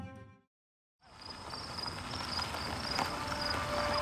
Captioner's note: tires on gravel